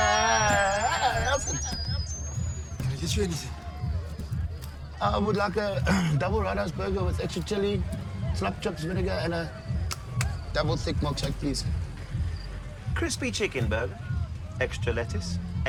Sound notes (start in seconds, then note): 0.0 loud radio feedback; 5.8 coughs; 9.8 hand claps